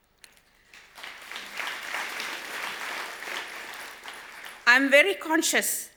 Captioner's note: audience applause